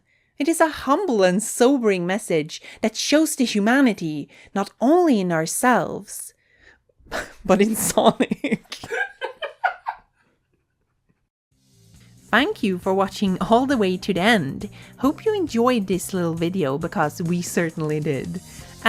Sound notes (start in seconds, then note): 7.6 laughs; 7.7 laughs behind camera